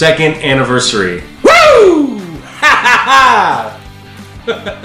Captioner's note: laughing